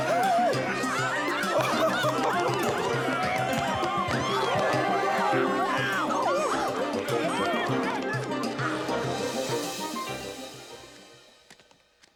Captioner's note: laughs; crowd screaming